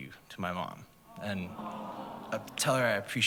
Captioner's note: audience aws